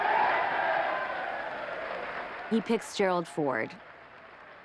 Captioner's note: audience cheers and applauds